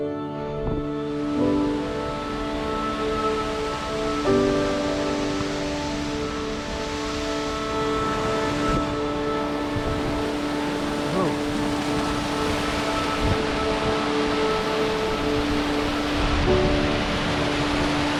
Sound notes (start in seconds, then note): 2.2 water rushing